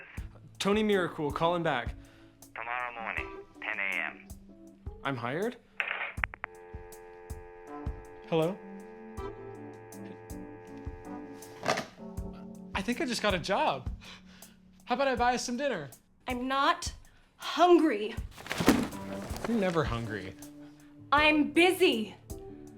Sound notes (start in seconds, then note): 6.4 phone line buzzing; 9.4 phone line buzzing continues; 11.6 phone thuds; 18.3 book thuds